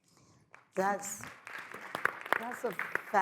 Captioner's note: audience applauds